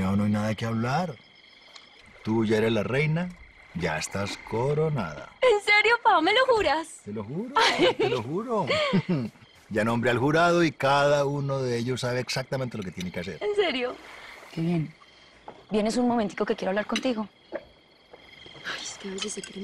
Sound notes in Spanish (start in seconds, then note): 9.4 Risas